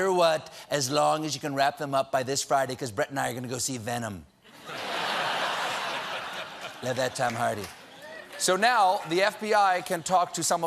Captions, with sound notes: BECAUSE BRETT AND I ARE GOING TO SEE 'VENOM'!" ( LAUGHTER ) SO NOW THE F.B.I. CAN TALK TO SOME OF BRETT'S BUDDIES AT YALE WHO REMEMBER KAVANAUGH'S